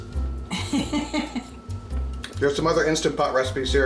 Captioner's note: laughs